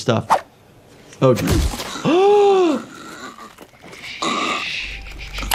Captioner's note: Dr. gasps